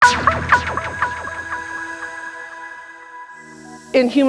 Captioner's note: digital sound effect